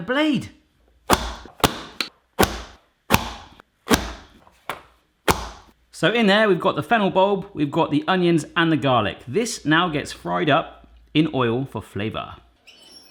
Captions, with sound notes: It bent the blade! (slamming) So in there we've got the fennel bub, we've got the onions, and the garlic. This now gets fried up in oil for flavour.